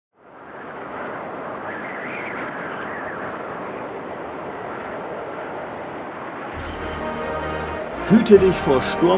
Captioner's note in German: Windgeräusche